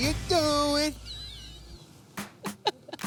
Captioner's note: laughs